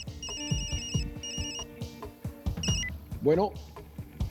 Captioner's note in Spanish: Suena el celular